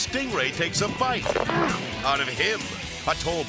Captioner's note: diver grunts